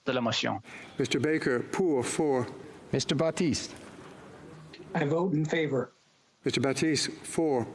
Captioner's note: speaking FRENCH